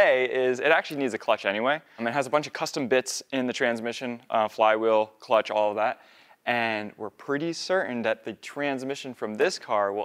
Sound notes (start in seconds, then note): none